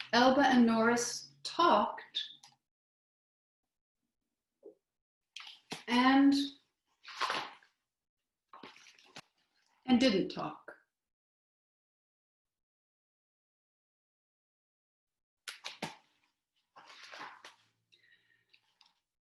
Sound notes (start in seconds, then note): 2.4 silence; 6.8 silence; 11.2 silence